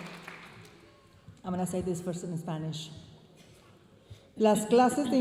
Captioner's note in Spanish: hablando en inglés